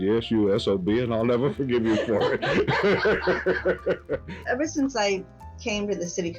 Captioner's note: laughing